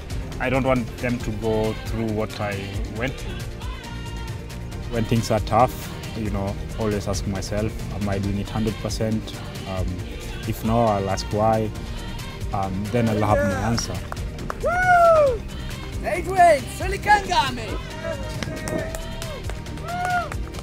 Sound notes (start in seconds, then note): 14.6 cheers; 15.8 non-english speech